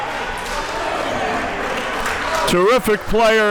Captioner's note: players chattering and applauding